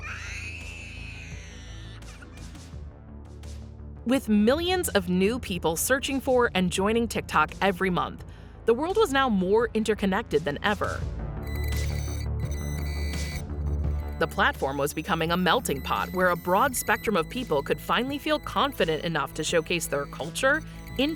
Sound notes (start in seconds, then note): 0.0 child screams; 1.3 intense electronic music; 11.3 high-pitched beeps; 11.3 intense electronic music